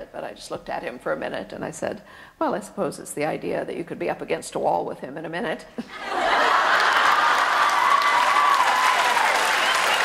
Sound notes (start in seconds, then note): 5.9 audience laughs and cheers loudly